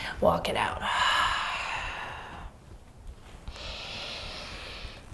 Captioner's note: inhaling and exhaling deeply